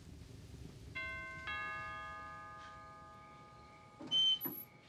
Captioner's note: doorbell ringing